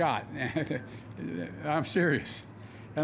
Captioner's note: laughs